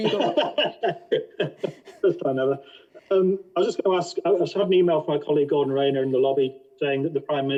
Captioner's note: laughing